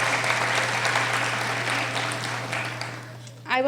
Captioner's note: applauding